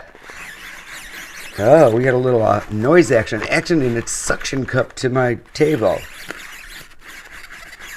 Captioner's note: squeaking